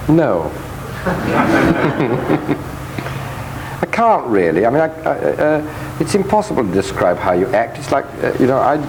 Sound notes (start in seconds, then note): 0.9 audience laughing; 1.0 laughs